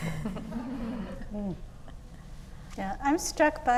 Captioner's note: laughing